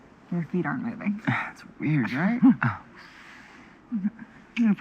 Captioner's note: laughs